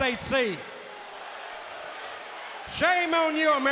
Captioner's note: audience booing